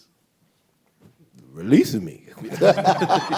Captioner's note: laughs; audience laughs